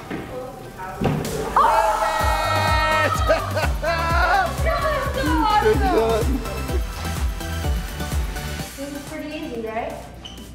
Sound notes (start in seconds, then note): 1.5 cheering; 2.4 laughing